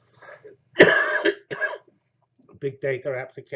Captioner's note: cough